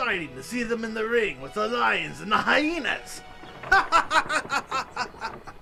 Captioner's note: laughing